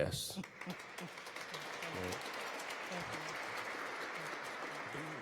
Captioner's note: audience clapping